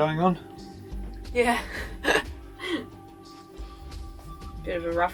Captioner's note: laughing